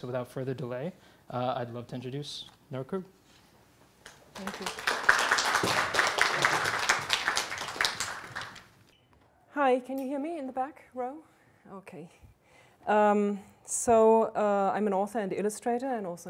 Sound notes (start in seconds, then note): 4.3 applause